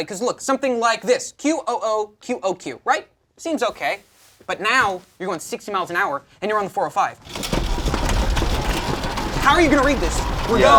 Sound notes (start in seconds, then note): 7.2 board rattles; 7.3 cars honking